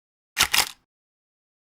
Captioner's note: camera click